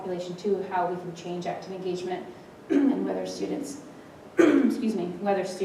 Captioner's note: cough